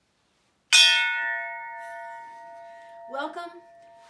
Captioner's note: clanging